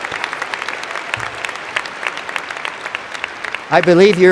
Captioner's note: applause